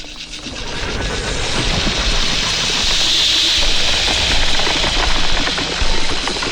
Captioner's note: snake growls; snake screeches